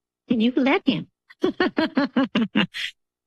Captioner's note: laughs